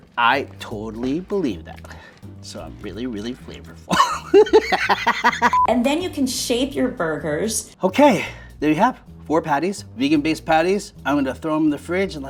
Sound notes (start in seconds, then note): 3.9 laughs